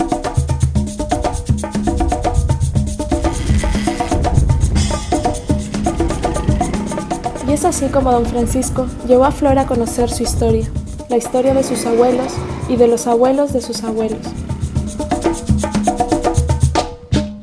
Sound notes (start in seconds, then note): 7.5 voiceover